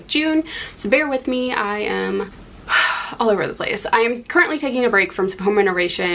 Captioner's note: sigh